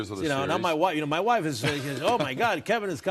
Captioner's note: Kevin laughs